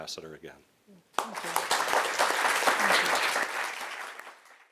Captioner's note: applause